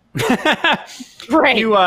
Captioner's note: laughing